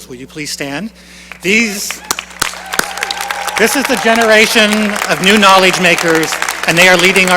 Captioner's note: cheering and applause